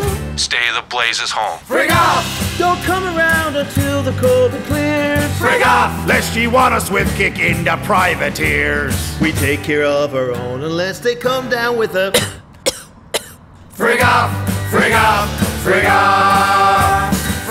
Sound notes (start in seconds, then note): 13.1 Mrs. Enid coughs